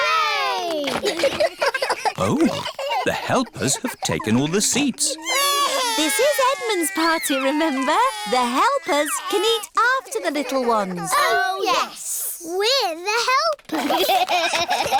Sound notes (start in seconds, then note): 1.6 giggles; 5.6 babies crying; 13.7 all giggling